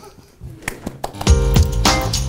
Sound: laughs; clapping

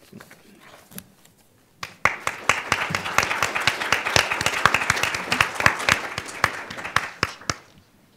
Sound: applause

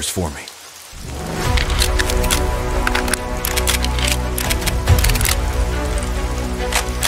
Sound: weapon sounds

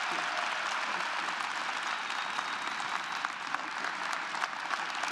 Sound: audience clapping and cheering

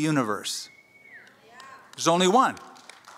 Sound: audience cheers

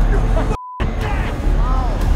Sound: Dalton laughs; beep

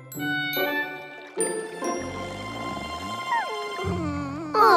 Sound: snooring

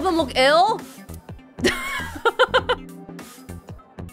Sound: chuckles

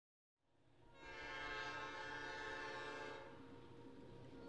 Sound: train whistle blares

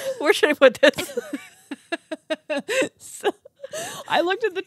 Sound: laughs; group laughs

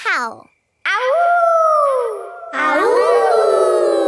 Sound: howling; kids howling

